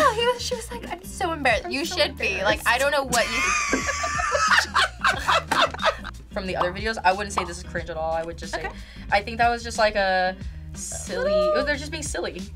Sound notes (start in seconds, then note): 3.1 laughs; 3.1 group laughs